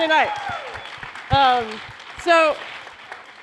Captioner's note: applause